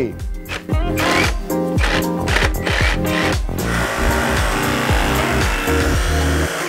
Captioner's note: power tools and upbeat music